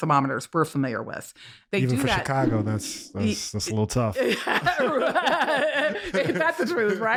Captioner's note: laughter